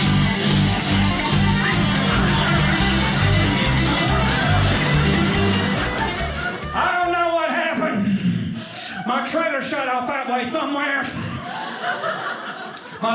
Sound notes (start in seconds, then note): 0.0 energetic banjo music; 2.1 audience laughing; 11.2 audience laughing